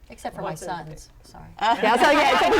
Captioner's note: laughter